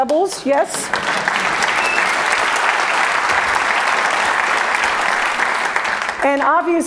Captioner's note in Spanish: Aplausos